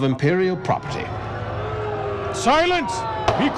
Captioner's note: crowd murmuring